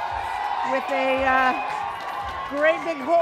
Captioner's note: loud cheering